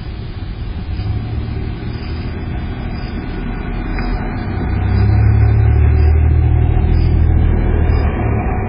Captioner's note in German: Auto fährt vor